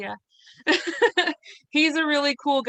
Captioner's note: laughs